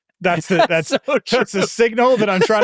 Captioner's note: laughing; laughs